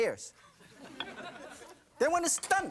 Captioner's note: audience laughing